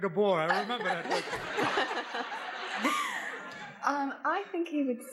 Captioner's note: laughs